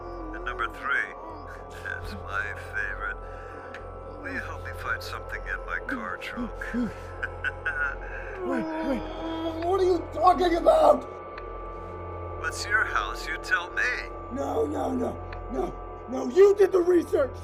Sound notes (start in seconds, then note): 6.3 laughs